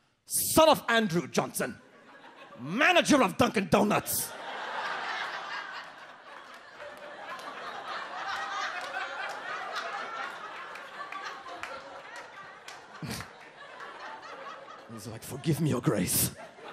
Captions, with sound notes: "son of Andrew Johnson, "manager of Dunkin' Donuts." (audience laughs) He's like, "Forgive me, your grace.